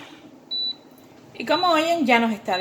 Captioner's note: beep